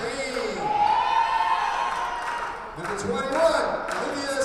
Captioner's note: audience cheers